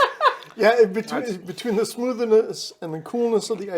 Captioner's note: laughing